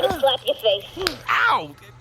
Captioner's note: slap